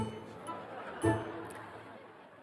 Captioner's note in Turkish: Gülme efekti